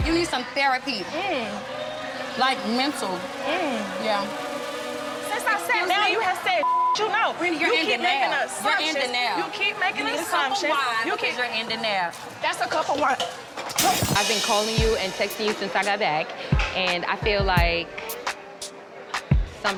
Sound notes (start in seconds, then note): 0.0 tense droning music; 12.2 drink splatters; 13.7 glass shatters; 16.4 thumping hip-hop music